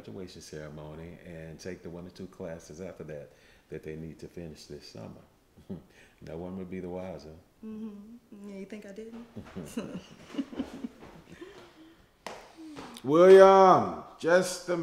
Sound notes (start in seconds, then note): 7.8 both chuckling